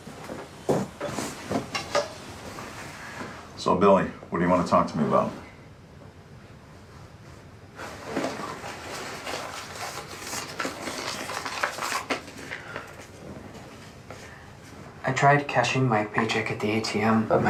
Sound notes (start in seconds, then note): 9.4 check rustling